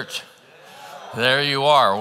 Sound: congregants cheering

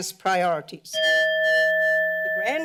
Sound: bell rings

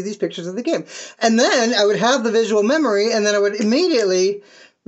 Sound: snap, snap

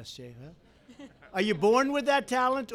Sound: laughter

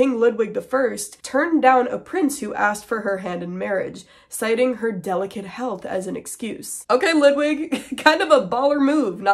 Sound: laughing

